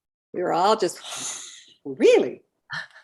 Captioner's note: gasping